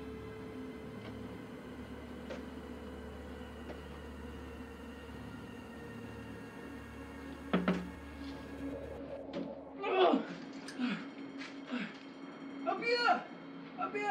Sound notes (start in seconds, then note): 7.5 knocking; 9.8 grunting